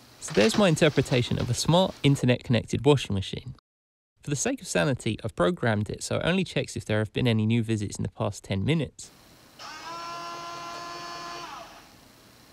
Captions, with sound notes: So there’s my interpretation of a smart, internet-connected washing machine. For the sake of sanity, I’ve programmed it so it only checks if there have been any new visits in the past ten minutes, *MACHINE WHIRRS*